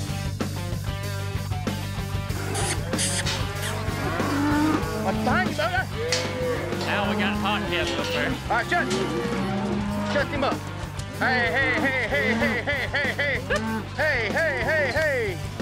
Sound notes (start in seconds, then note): 3.8 cows moo